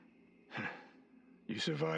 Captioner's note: laugh